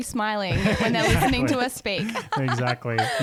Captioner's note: laughs